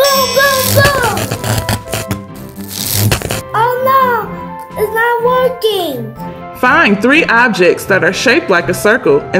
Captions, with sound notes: - Boom boom boom. (electricity static) - Oh no, it's not working. - Find three objects that are shaped like a circle